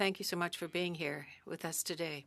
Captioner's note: speaking French